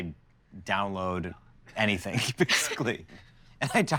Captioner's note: both chuckle